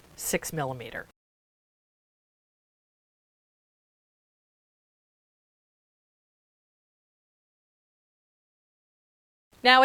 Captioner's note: no Sound Present